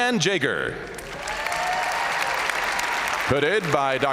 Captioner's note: audience cheering